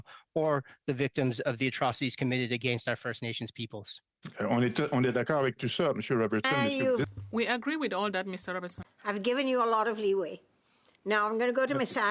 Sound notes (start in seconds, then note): 9.8 speaking French